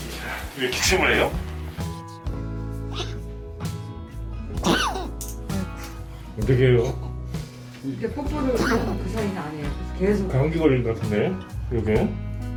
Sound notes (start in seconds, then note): 2.8 cough